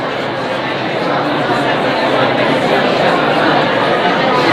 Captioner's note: audience chattering